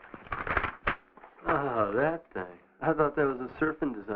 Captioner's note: papers rustling